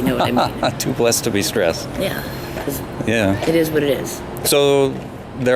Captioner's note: both laughing